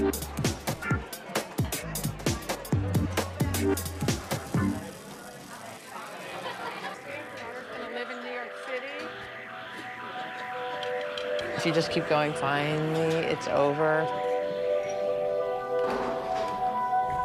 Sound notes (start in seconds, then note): 6.3 laughter